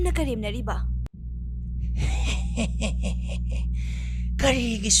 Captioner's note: laughing